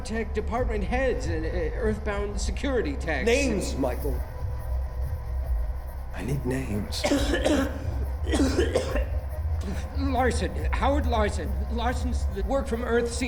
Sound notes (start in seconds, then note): 6.9 heavy coughing